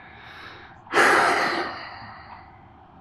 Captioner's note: Ludlow exhales heavily